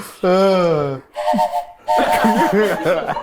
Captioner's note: whistle blows; everyone laughs